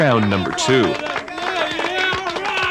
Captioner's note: cheering continues